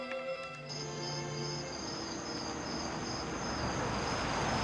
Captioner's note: crickets chirping